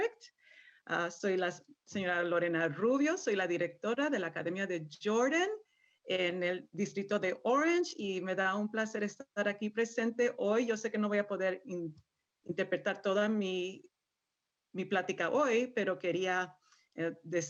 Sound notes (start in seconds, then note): 5.0 speaking in Spanish